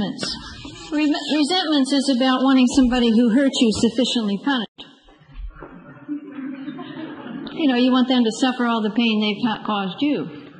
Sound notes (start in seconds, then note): 6.5 group laughs